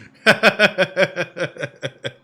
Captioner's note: laughs